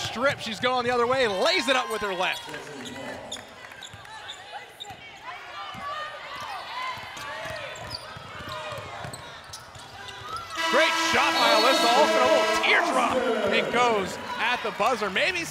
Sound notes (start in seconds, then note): 4.7 game noise; 10.5 buzzer